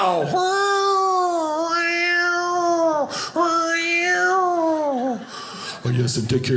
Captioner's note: cat meowing